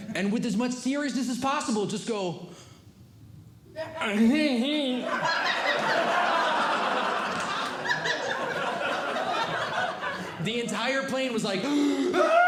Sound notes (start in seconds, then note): 2.8 speaks as if deaf; 5.0 audience Laughing; 11.6 gasping and Yelling; 12.3 audience Laughing